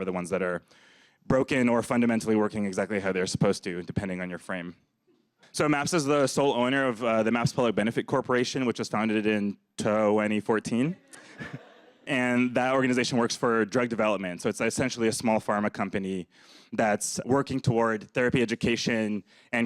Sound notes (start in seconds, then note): 11.1 audience laughs